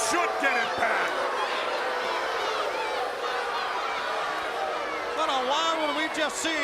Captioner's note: crowd cheering